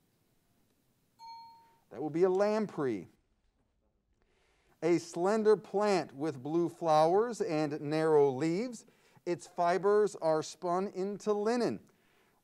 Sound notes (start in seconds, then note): 1.2 bell pings